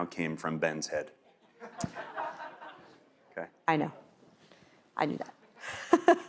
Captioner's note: laugh